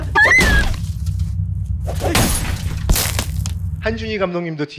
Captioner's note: sounds of crashing a car